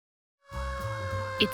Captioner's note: siren